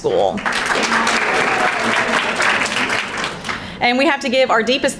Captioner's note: crowd applauding